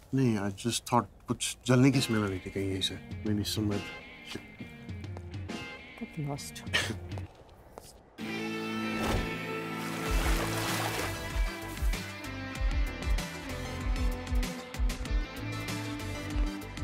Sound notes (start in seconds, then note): 6.8 Chuckles; 9.6 Water splashing